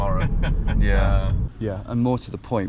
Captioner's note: Park Ranger laughs